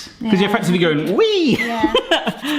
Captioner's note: laughing